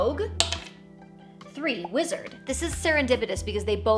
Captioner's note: die clacks